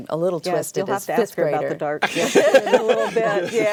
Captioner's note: laughter